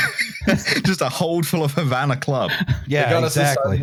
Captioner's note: laughs